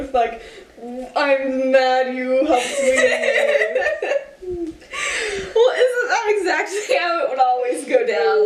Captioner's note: laugh